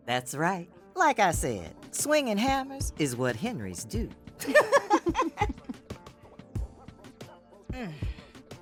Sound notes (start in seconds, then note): 4.4 both laughing